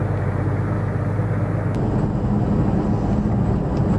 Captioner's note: engine noise